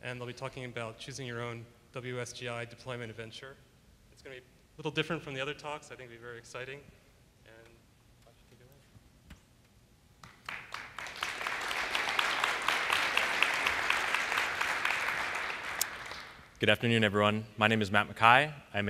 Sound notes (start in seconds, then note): 13.6 applause